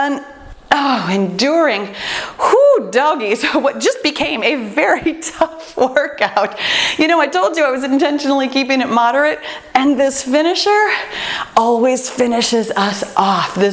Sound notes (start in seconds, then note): 5.9 laughs